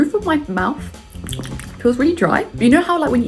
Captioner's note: smacks lips